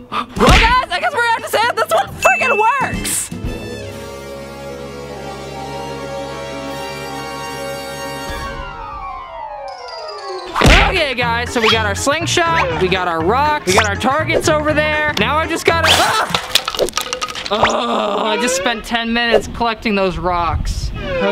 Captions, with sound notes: Well guys, I guess we're gonna have to say that this one freaking works. (suspenseful music) Okay guys. So we got our sling shot, we got our rocks, we got our targets over there, now I just gotta -- (rocks drop) I just spent ten minutes collecting those rocks.